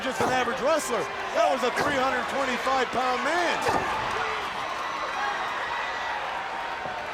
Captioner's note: crowd chattering